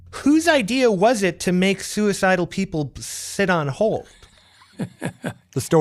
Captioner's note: laughs